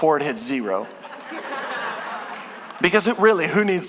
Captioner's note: congregation laughing